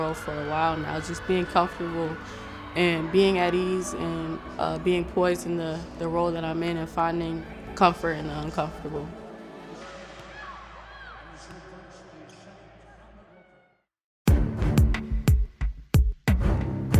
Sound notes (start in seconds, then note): 10.2 voices speaking; 14.3 upbeat music